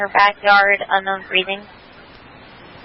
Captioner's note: radio traffic